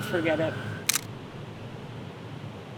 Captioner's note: camera Shutter